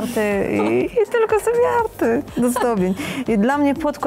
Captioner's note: laugh